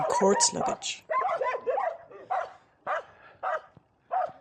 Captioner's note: dogs barking